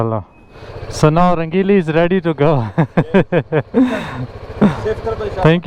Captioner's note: motorcycle